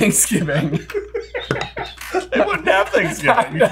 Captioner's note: all laughing